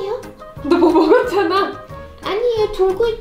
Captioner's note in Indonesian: tertawa